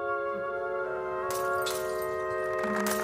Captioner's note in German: Gläserklirren; Applaus